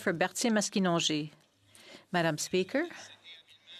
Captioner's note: speaking in French